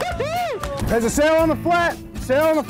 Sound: clapping and cheering

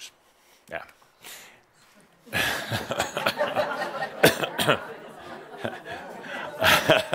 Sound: Adamus and audience chuckle

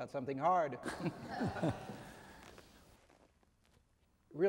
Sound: chuckling

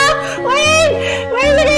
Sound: inhale

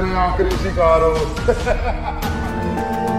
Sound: laughs

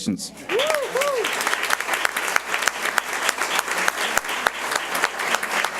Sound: audience cheers and applauds

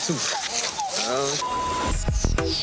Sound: beep; upbeat music

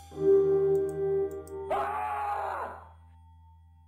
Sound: Frank Screams

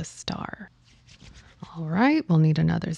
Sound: rub hands

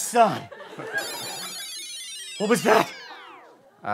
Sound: electronic noise fading

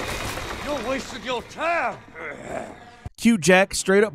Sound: tense music; groans

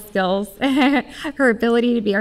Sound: chuckles

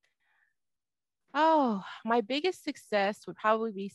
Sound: sighs

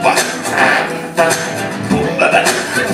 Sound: tuvan throat singing; vocal trombone; tuvan throat singing; vocal trombone

